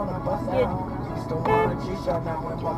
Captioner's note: car honk